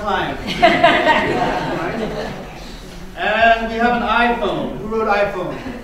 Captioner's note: laughter